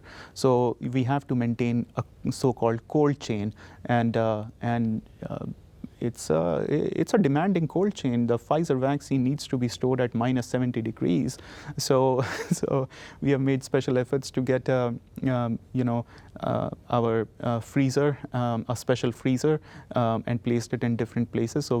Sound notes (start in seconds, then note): 12.2 chuckling